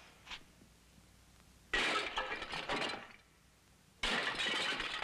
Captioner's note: smashing